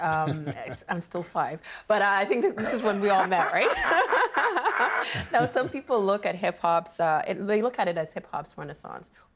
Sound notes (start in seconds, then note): 2.5 laughs; 5.9 everyone laughs